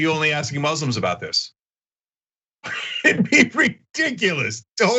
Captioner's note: laugh